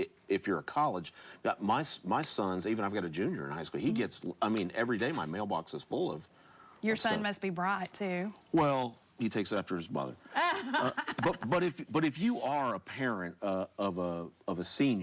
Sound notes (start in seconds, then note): 10.3 laughs